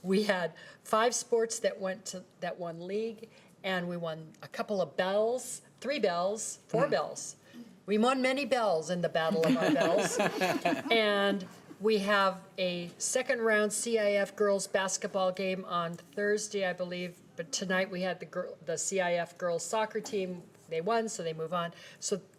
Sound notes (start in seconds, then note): 9.3 laughter